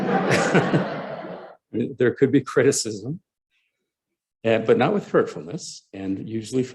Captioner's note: laughter